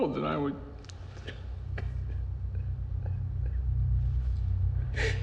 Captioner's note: sobs